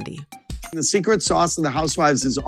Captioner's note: soundbite of archived recording